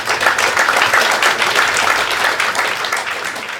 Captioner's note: clapping